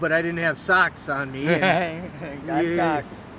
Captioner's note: laughs